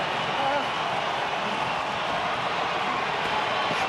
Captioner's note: crowd cheers